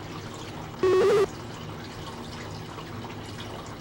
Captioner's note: buzzing/beeping